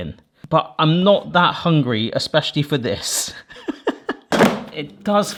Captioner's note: laughs